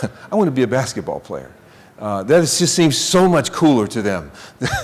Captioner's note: laughing